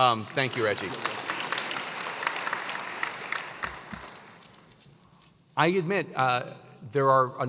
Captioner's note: applause